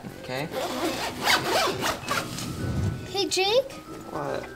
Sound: tent zipping

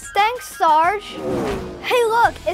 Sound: car engine roaring

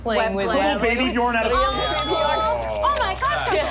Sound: skittering

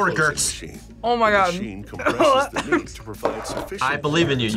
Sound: wretches

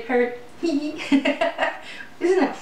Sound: hee hee

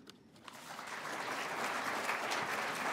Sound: applause

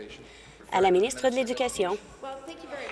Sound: applause

